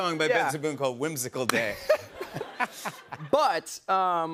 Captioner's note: laughter